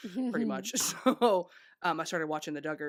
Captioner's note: laughing